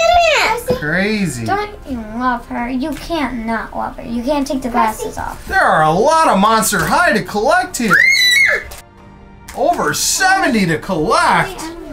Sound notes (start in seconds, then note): 7.9 girl shrieking